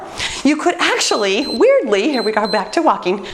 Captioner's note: timer beeps